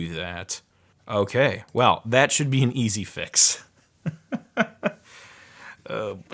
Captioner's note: laughs lightly